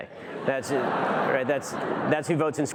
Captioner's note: audience laughter